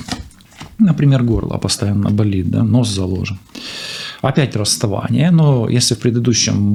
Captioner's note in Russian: фыркает